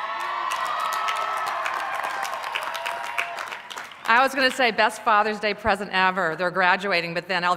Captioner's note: cheers